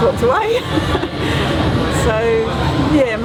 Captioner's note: laughs